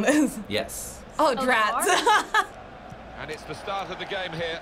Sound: laughing

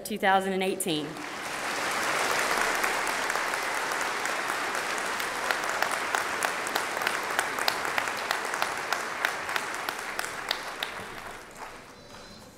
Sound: applause

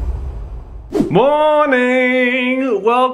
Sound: screen wipe whooshes

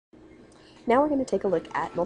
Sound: background chatter

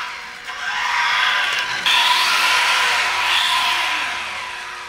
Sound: motor whirring

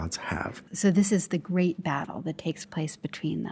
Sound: voiceover

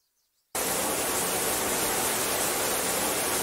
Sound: shower running

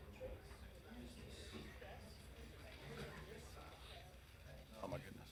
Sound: people chattering

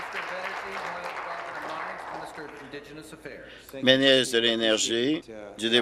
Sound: applause

